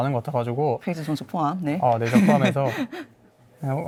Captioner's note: laughs